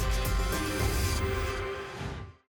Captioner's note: whoosh